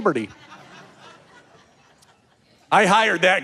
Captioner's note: audience laughing